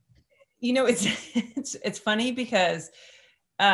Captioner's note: chuckles